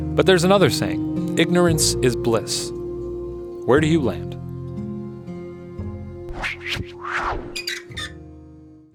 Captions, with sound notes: But there's another saying, ignorance is bliss. Where do you land? (whoosh) (creak)